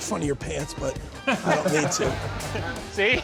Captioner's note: laughter